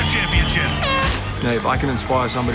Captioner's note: air horn blasts